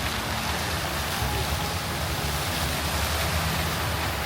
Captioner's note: fountain splashes